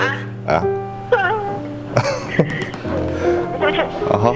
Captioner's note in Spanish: Madre llorando